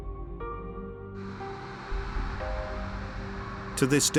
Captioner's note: engine running; echoing screech